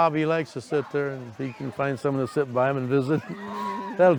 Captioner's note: laughs